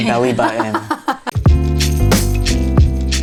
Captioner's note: laughing; gentle upbeat music